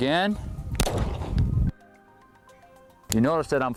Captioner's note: gun fires